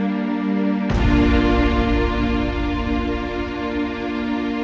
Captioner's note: image crashes; intense dramatic music